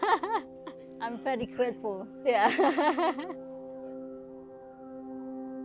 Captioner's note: laughs; laughs; gentle music